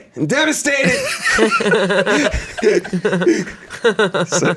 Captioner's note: everyone laughs